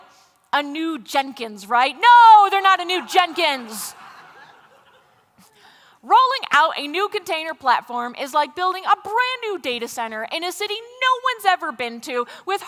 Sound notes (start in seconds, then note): 2.9 laughter